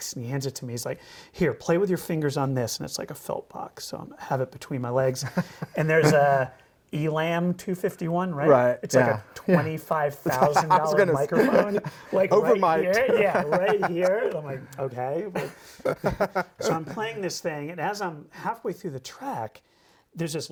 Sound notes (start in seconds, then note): 15.3 laughs